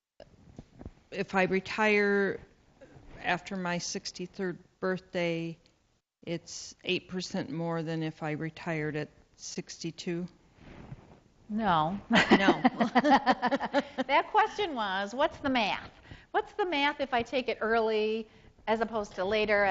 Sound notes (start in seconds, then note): 12.1 laughs